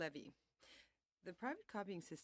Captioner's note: speaking French